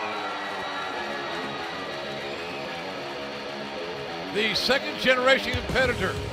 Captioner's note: cheers and applause